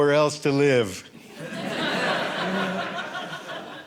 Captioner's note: audience laughing